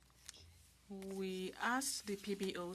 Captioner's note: speaking French